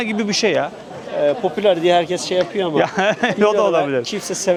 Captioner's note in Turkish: kahkaha